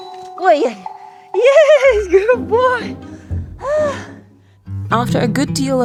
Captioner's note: exhales